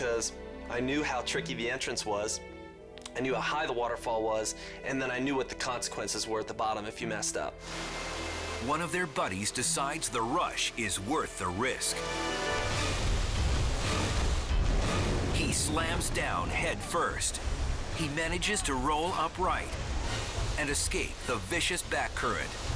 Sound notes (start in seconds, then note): 12.3 dramatic music; 12.3 waterfall rushing